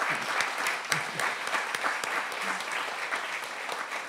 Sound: applause

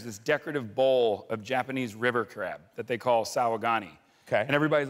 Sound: japanese

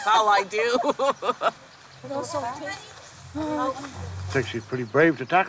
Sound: laughing

